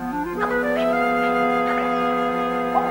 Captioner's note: whispering